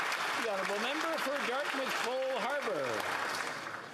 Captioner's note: some Applause